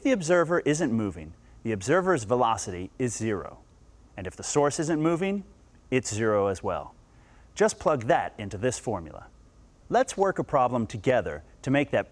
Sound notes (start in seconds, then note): none